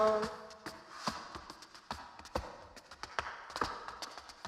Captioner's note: shoes clacking